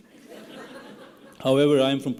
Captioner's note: laughing